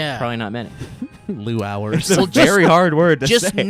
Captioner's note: laughs